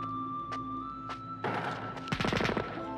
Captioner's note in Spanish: gunfire